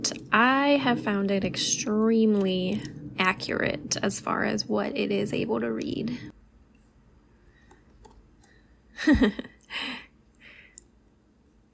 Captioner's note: laugh